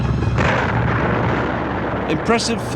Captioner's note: artillery explode